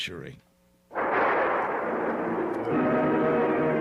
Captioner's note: gunfire